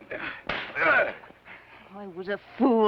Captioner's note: slap; Theodore grunts